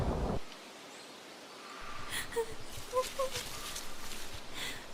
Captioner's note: sobbing and Rustling